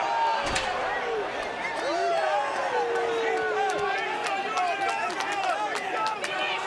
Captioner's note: crowd murmuring; chair crashes